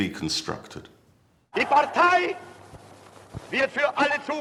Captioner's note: speaking German